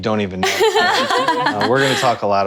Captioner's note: all laugh